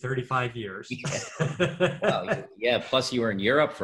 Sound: laughs

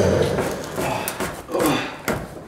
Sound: groan

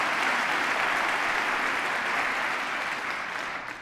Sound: applause

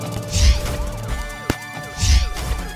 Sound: stops car

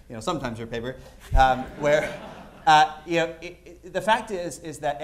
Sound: laughter

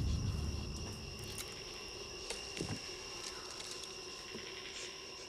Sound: insects chirping

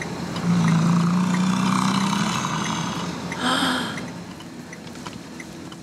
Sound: buffalo roars

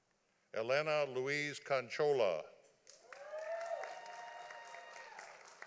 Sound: audience applauding

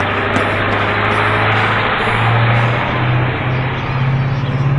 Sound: bus engine running

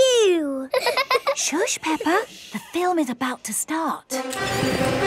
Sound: both laughing; heroic music

